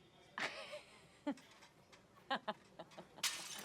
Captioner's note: dish breaks